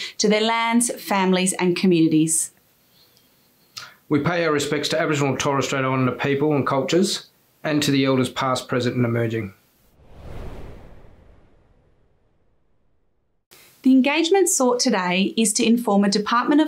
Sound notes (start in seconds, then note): 9.9 wind blowing